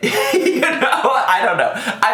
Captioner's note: laughing